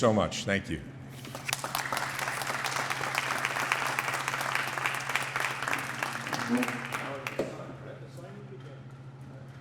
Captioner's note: applause